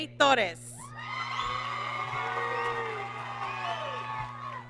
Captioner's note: applause and cheering